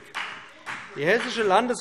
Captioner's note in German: Beifall BÜNDNIS 90/DIE GRÜNEN und CDU